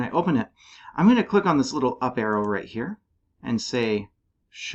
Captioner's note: click